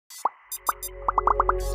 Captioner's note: soft music; bubbles popping